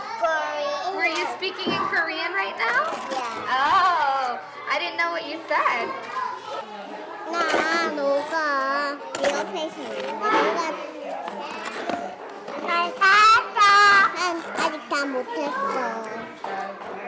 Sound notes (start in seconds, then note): 7.9 children speak korean